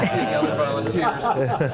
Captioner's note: chattering